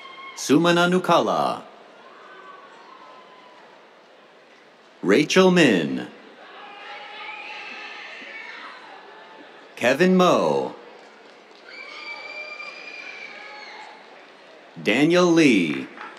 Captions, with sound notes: Sumana Nukala. [CHEERS] Rachel Min. [CHEERS] Kevin Mo. [CHEERS, APPLAUSE] Daniel Li.